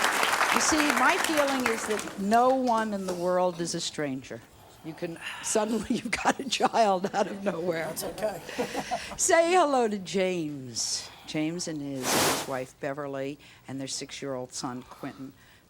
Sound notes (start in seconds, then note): 5.7 laughs